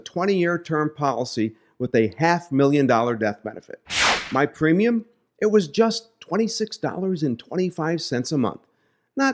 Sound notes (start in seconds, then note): 3.9 air whooshing